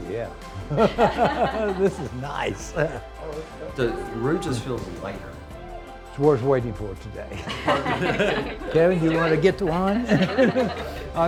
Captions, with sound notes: Ooh, yeah. (group laughs) This is nice. - The room just feels lighter. - It was worth waiting for today. (group laughs) Kevin, do you wanna get the wine?